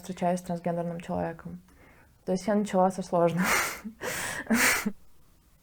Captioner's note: laughs